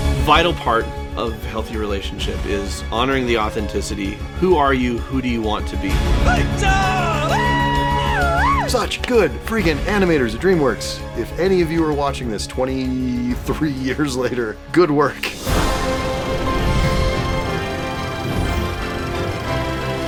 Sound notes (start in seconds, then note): 6.3 shouting and whooping